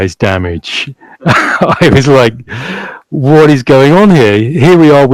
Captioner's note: laughs loudly